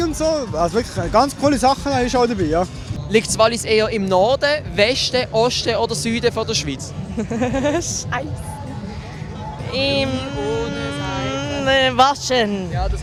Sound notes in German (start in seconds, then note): 6.4 lachen